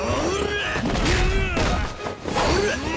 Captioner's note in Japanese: うめき声; 叫び声